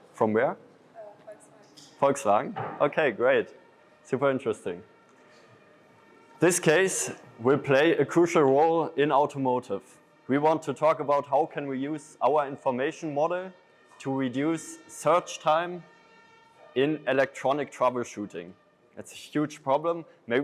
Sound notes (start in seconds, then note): 4.9 sirens wailing